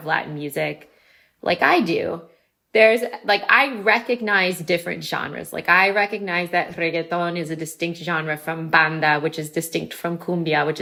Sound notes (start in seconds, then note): none